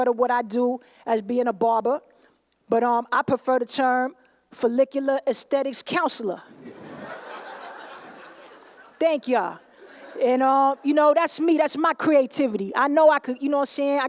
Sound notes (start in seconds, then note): 8.1 laughter